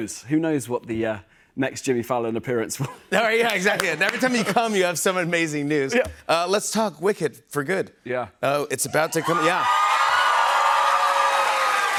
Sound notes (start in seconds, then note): 9.1 cheers and applause